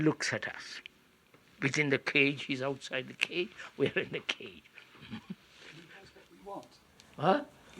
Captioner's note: laughs